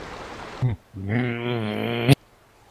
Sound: angry Noises... or something

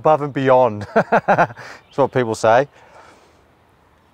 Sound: laughing

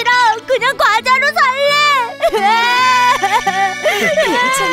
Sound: cries

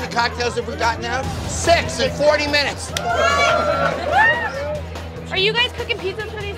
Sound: patrons cheering

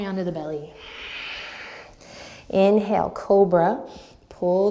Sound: deep breath

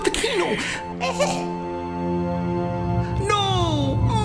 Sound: weak coughing

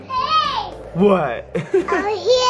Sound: giggles

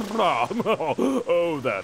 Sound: chuckles

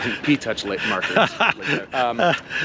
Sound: laughs

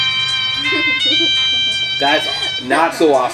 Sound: assistant giggles

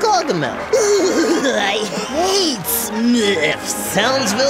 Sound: cackling

